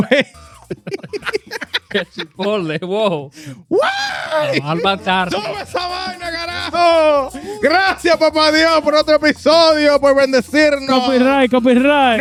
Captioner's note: laughing; speaking In Foreign Language